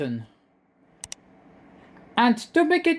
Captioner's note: click sound